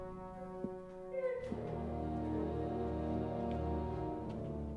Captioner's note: woman sobbing